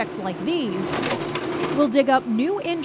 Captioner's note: machinery clinking